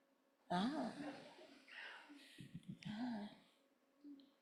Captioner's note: audience laughing